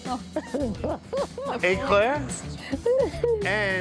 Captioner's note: in French accent; laughing